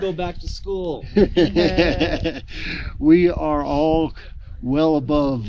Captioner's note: laughing